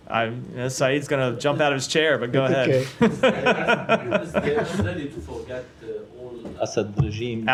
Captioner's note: laughter